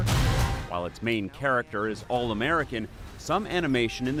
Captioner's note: voice-over